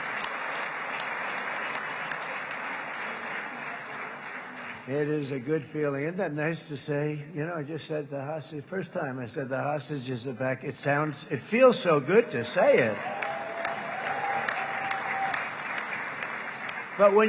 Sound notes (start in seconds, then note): 4.0 applause